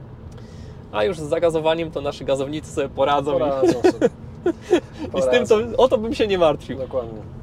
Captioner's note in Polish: śmiech